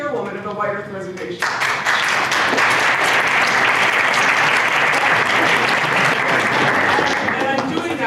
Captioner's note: applause